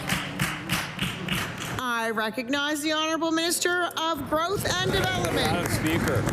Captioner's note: applause